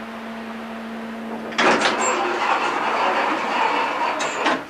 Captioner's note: door creaks open